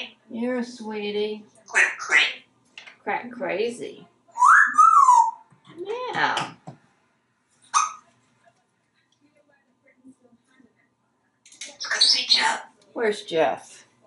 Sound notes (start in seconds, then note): 4.4 wolf whistling